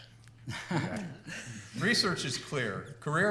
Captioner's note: laughter